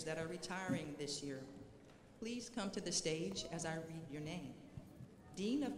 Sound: none

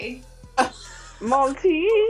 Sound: laughing

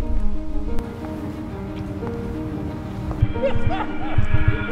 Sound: car engines; laughing

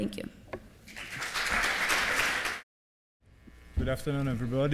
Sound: applause

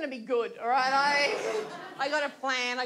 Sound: audience laughs

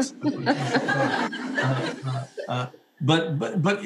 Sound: audience laughing

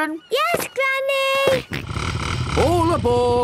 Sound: snort

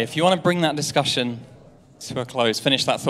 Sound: audience chattering

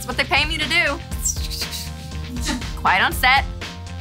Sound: swishing

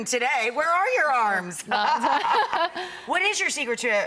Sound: laughs

